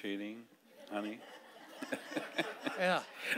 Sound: audience laughing

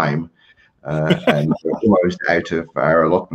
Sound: laughs

